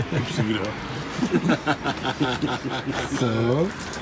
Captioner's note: laughing